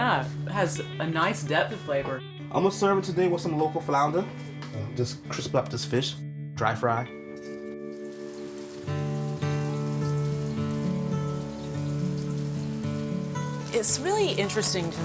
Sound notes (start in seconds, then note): 7.4 flounder sizzling in the pan; 11.6 light guitar music